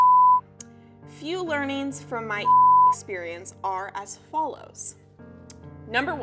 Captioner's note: beep